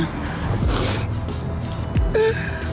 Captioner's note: sniffs